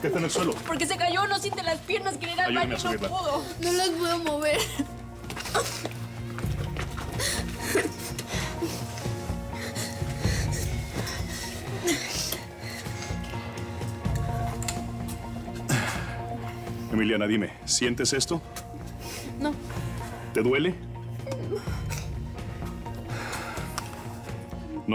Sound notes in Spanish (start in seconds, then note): 6.9 solloza